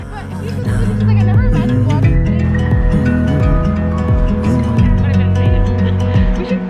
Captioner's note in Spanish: chicas hablando indistintamente; música extranjera